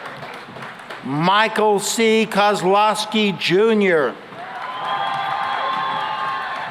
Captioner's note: cheering and applause